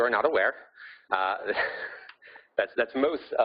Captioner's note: laughing